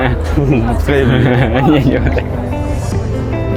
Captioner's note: giggling